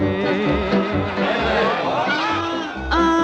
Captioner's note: uptempo rhythm plays; crowd hooting